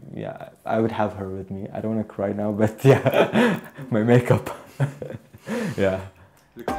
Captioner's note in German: lacht